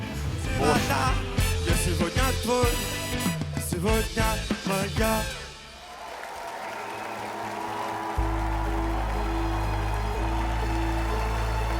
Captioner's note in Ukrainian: оплески